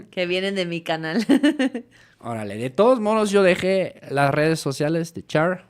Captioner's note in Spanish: risas